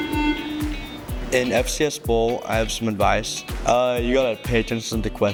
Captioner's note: buzzer sounds